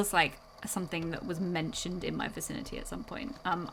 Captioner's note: none